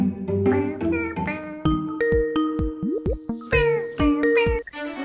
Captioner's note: imitates FaceTime ring